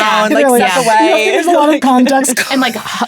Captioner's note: laughs